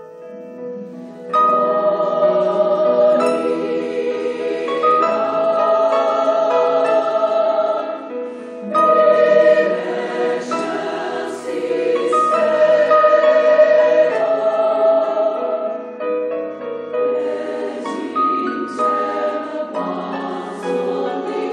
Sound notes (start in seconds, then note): 1.4 choir speaks in foreign language; 8.7 choir speaks in foreign language; 17.1 choir speaks in foreign language